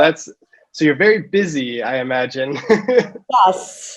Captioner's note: laughs